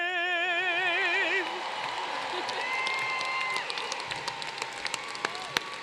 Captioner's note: applause